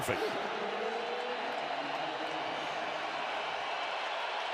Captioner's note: crowd cheering